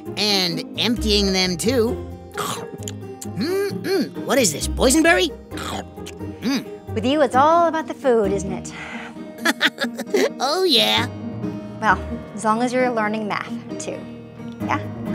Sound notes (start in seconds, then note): 9.4 laughs